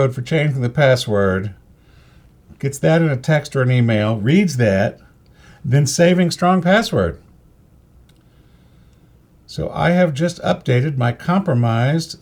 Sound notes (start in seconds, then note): 7.1 silence